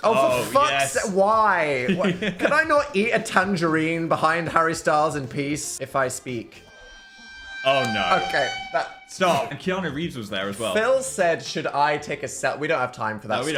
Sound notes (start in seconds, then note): 1.9 laughs; 6.0 sinister music